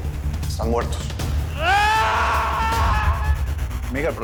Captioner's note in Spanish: Grito